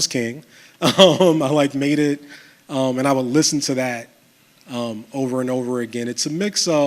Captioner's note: chuckles